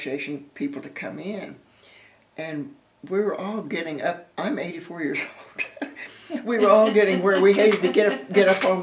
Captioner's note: laughter